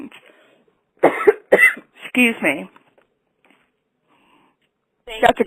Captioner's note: coughs